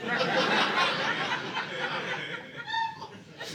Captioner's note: audience laughing